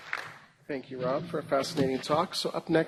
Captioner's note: applause